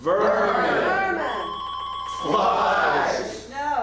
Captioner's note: phone rings